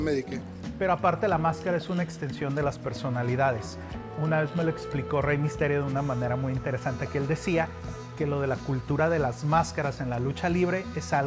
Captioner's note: speaking Spanish